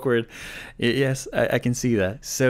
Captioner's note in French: lit la traduction en anglais